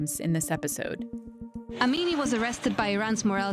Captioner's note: soundbite of archived recording